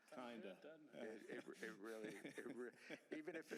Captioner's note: laughter